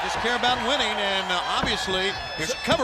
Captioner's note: crowd cheering